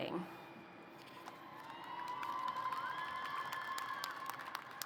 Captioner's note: applause